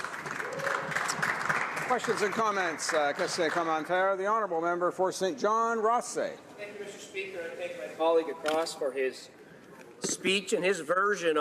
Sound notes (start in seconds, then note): 4.6 applause